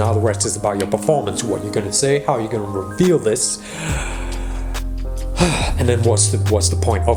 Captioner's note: sighs